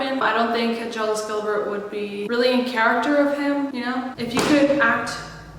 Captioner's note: thud